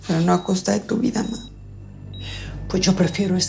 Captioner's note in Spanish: none